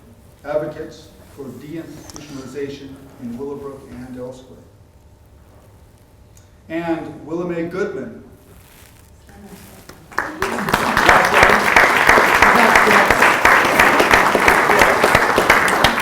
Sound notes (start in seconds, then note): 10.0 applause